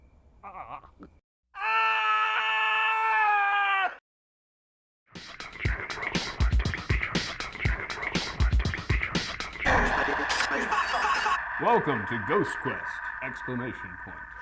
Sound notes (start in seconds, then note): 1.5 screaming; 5.2 upbeat music; 9.2 screaming